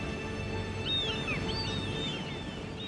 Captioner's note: seagulls squawking